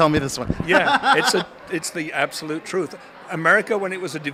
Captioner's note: laughs